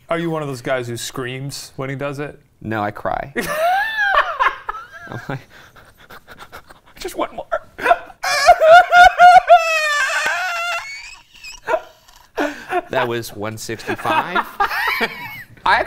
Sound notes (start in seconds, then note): 3.4 laughs; 7.8 crying; 14.6 laughs